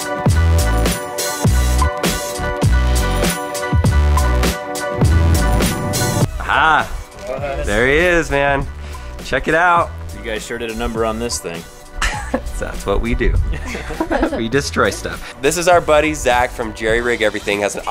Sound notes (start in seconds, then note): 13.5 laughs; 13.5 all laugh